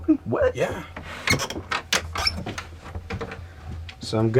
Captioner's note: door creaks open